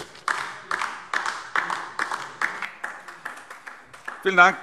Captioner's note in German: Beifall DIE LINKE